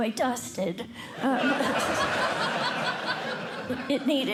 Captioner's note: laughter